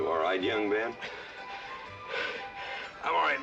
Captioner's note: panting